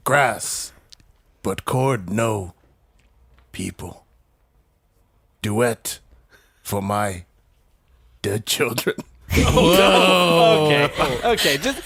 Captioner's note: assorted worry sounds; laughs